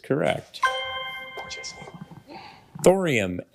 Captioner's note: ethereal ring